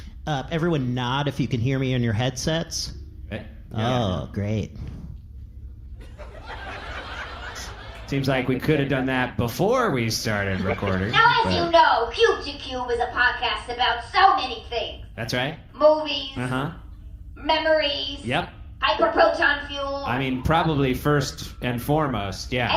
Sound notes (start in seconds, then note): 6.0 audience laughing